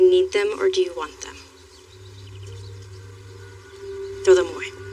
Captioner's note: birdsong